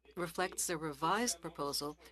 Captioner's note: speaking French